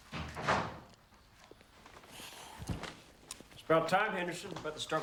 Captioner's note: door thuds